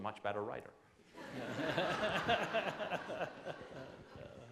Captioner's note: laughing